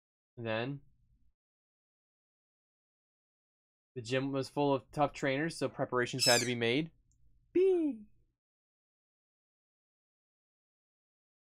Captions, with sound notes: Then... "The gym was full of tough trainers so preparations had to be made." (screech) (imitating screech)